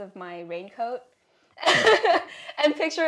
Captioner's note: laugh